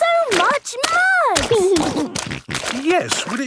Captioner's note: snorting